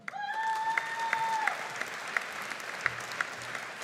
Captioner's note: audience applauding